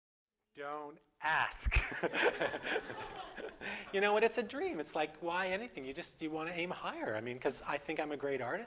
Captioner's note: audience: Laughter